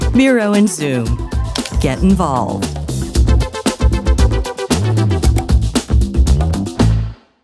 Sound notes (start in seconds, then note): 3.2 mouse clicking; 3.2 upbeat music